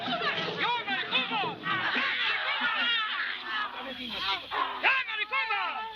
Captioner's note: crowd cheering